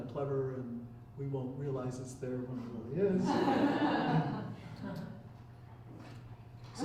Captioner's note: chuckling